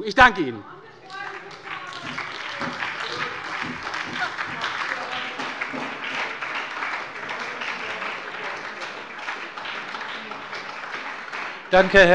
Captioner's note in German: Anhaltender Beifall bei der SPD - Beifall bei der LINKEN